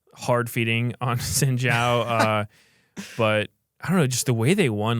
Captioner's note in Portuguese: risos